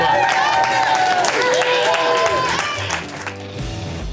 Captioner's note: crowd applause and cheering